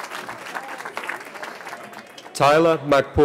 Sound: cheering

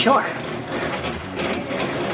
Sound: machine noises

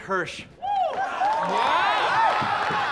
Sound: clapping and cheering

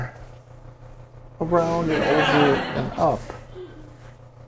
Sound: laughter

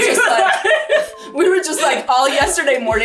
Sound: laughs

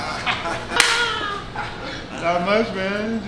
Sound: laughing

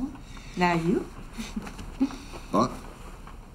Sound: chuckles

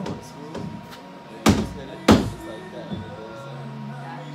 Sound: hammer bang

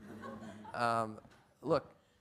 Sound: audience laughs

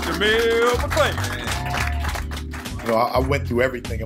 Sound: applause

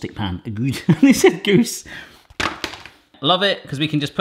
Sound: laughs

